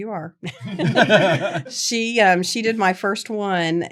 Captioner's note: laughter